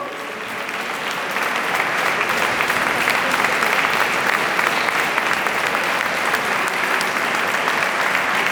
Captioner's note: applause